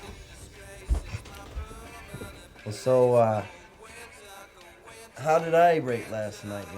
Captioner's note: chuckles